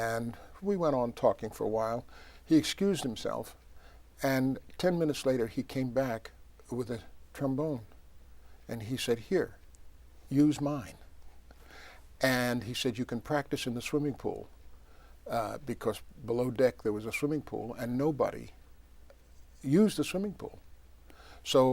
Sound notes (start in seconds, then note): none